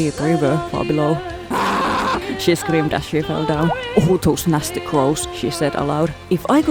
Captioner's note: aaaaaaaaargh